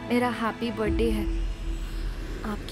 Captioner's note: Airplane engine swooshes